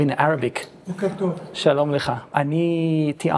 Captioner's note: in Hebrew